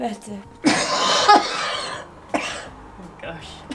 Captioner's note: coughing